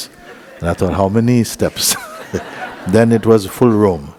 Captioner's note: laughter